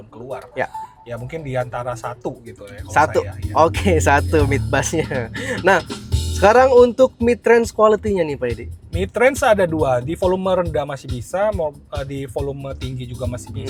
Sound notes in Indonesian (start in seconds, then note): 4.8 tertawa